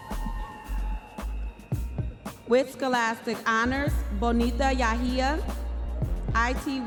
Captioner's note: audience members cheering